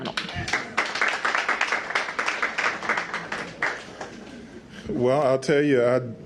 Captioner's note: applause